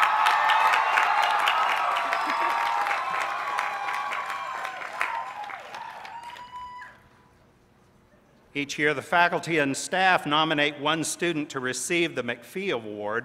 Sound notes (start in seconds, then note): 0.0 applause